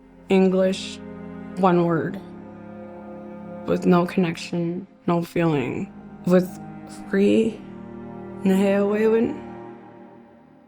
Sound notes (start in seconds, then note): 7.9 speaking Cree